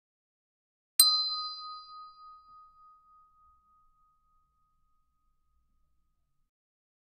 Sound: sound hand bell

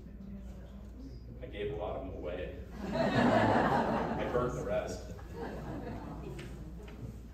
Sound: laughs

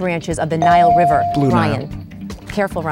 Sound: dinging

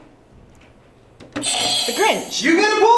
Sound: buzzer rings

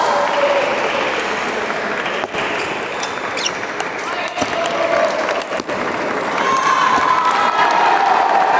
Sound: applause

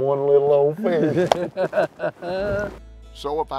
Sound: laughter

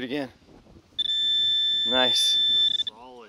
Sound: pointer pings

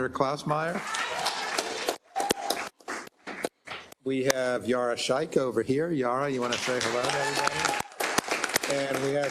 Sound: applause

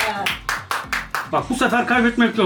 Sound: applauds

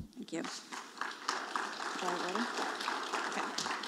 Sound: audience applauding

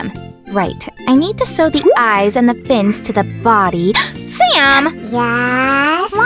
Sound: gasp

